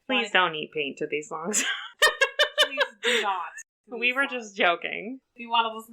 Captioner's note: laughs